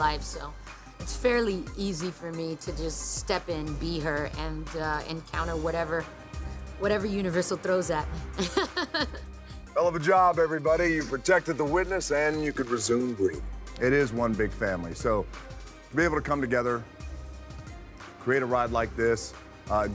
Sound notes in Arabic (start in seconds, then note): 8.3 يضحك